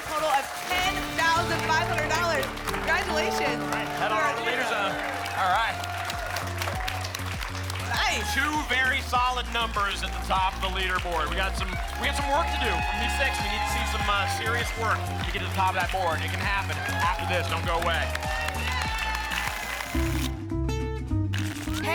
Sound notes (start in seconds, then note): 6.0 applause and cheering; 19.2 tickets shuffling